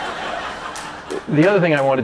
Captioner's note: laughter